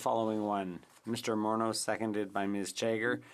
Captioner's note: speaking French